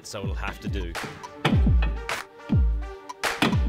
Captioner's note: metallic clanging